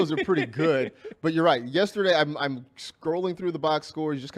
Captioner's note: laughter